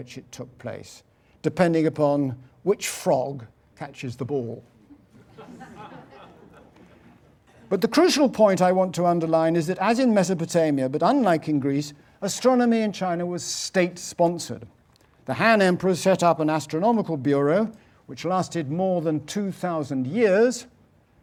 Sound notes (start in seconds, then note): 4.9 laugh